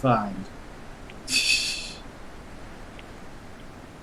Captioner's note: laughs softly